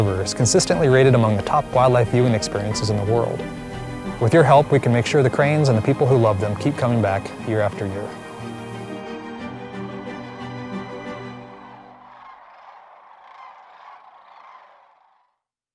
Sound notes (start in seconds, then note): 8.4 music and bird sounds; 11.7 bird sounds